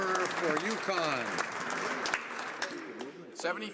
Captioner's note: some Applause